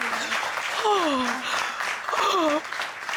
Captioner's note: gasping